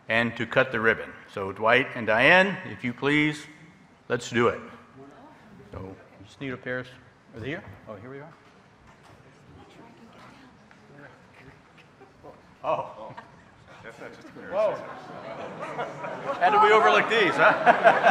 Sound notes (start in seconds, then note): 15.5 audience murmuring; 17.7 laughs